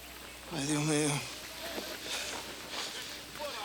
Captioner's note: Crecencio speaks Spanish